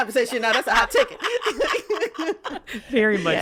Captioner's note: laughs